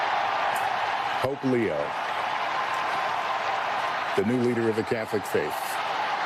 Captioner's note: cheering